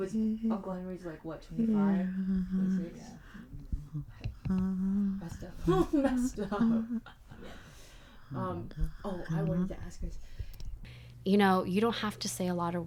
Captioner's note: humming